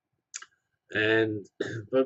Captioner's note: cough